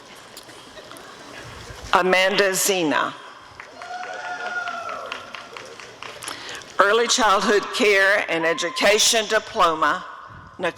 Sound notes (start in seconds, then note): 3.5 applause and cheering